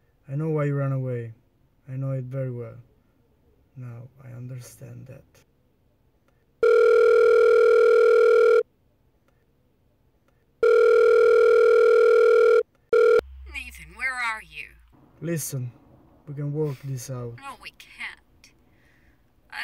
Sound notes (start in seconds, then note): 6.6 phone rings; 10.6 phone rings